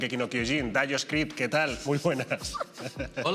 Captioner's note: laughs